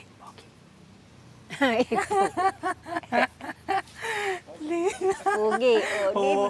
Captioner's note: whispering; laughing